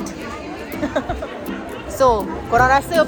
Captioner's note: laugh